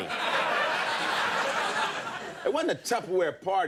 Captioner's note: audience laughing